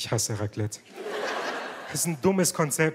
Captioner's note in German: Lachen